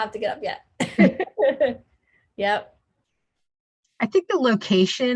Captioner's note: both laughing